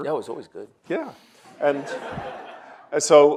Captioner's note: audience laughs